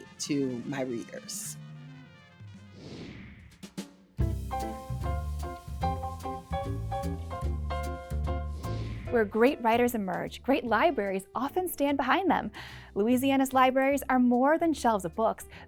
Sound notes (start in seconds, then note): 1.2 lively music ending; 2.6 screen whooshing; 4.2 happy music